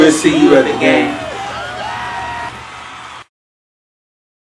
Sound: applause

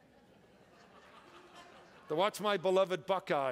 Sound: congregation laughs

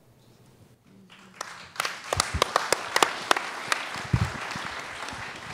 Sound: applause

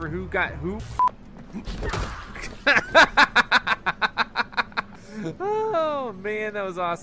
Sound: kicking; laughing

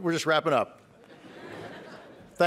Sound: laughter

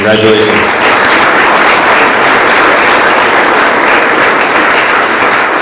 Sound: audience applauds

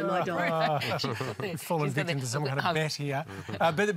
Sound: laughter

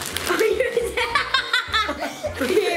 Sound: laughing

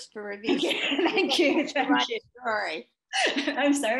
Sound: laughing

